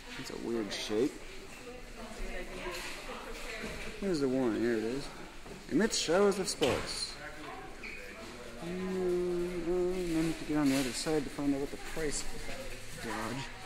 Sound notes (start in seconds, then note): 8.6 humming